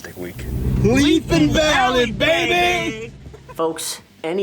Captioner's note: laughing